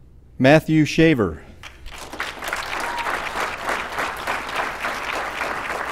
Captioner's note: applause